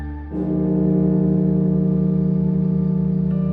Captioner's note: bell tolling